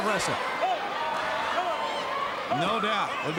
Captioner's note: crowd cheering